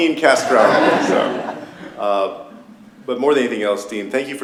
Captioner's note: laughter